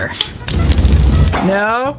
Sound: fire crackling

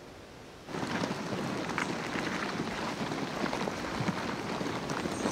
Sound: crabs clattering

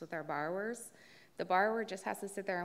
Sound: none

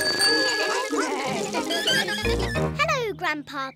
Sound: all chatter

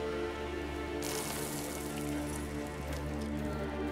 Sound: sprinkling

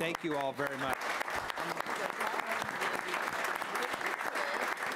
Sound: applause

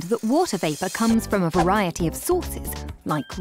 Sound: none

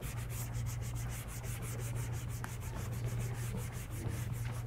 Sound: scrubber scraping

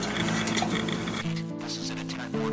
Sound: electricity buzzes

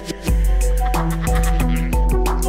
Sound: evil laughter

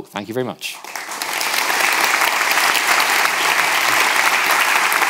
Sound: audience applauding

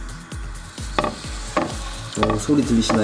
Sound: sizzling

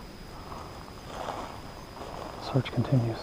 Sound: footsteps thudding

